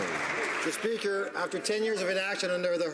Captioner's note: some Applause